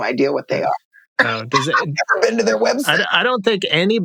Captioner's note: laughter